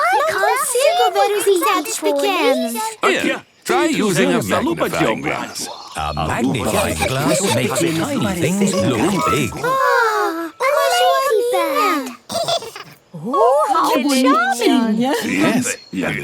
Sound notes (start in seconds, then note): 12.2 giggles